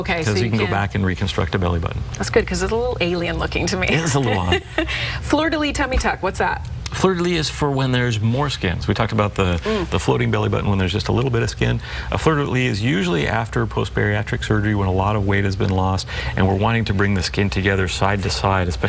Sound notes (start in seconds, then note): 3.9 laughs loudly